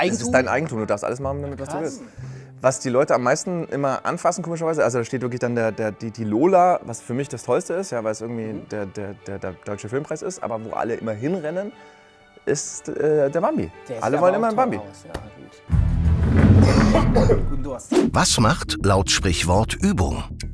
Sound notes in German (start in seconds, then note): 16.5 Florian hustet